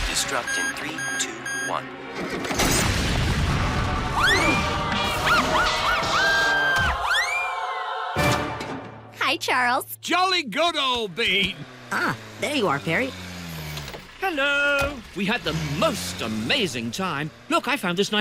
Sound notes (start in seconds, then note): 5.6 candace screams